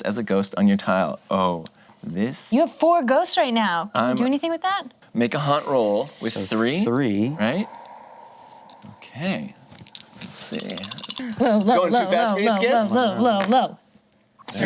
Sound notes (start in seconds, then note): 7.2 exhales